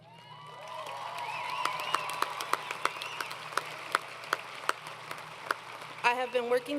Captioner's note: crowd Cheering